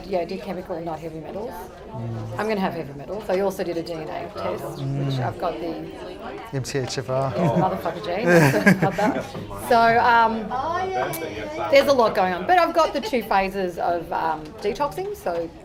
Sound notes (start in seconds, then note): 8.0 laughs